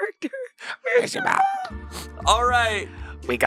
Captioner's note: laughing